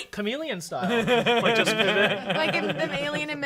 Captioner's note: laughs